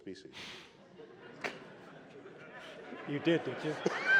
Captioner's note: laughter